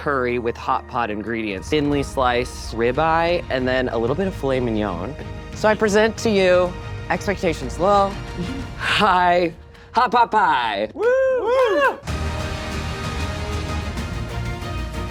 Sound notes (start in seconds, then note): 10.7 scattered cheers; 12.0 dramatic music